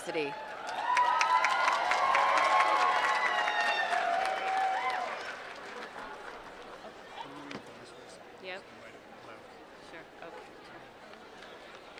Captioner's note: applause